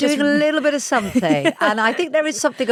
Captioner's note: laughs